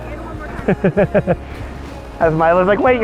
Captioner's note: laughing